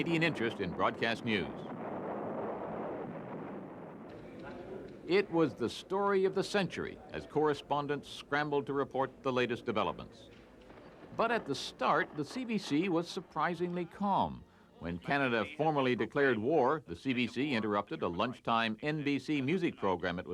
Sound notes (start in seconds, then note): 0.0 explosions; 4.2 explosions